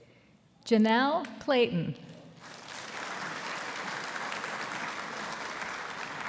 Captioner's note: audience applauding